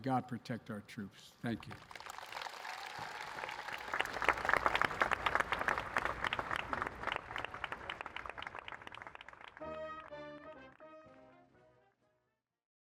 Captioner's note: applause